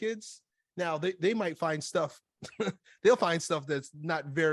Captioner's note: chuckles